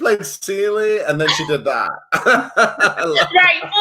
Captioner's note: laughs